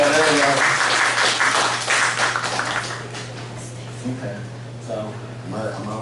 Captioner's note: applause